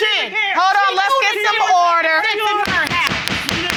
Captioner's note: gavel pounding